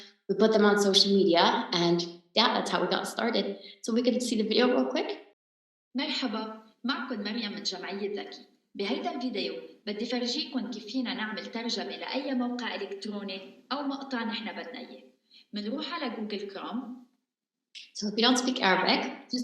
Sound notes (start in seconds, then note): 6.0 speaking in arabic